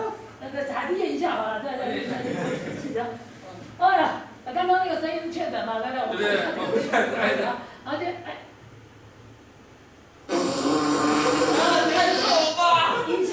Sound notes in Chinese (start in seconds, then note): 10.2 屁聲